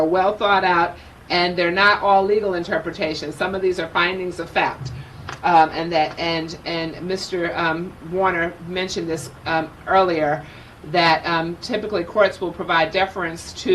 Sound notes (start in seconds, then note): none